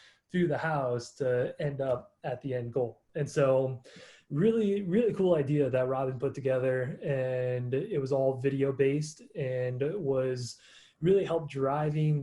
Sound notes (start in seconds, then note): none